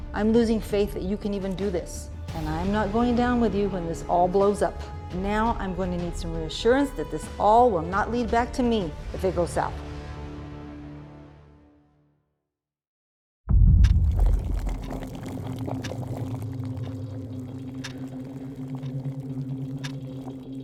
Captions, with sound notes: - I'm losing faith that you can even do this. And I'm not going down with you when this all blows up. Now, I'm going to need some reassurance that this all will not lead back to me if it goes south. (water boiling) (eerie music) (clock ticking)